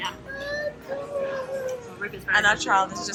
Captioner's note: whining